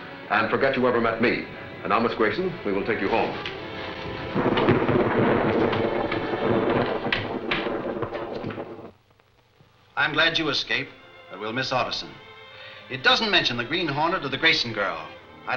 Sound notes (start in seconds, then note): 4.5 thunder rolling